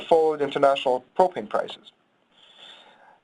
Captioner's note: none